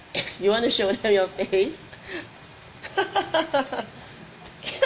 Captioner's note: laughs; laughs